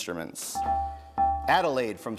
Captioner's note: bells ring